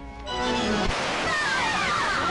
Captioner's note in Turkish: Silah sesi; Fonda korku ve heyecanlı mırıltılar, bağırışlar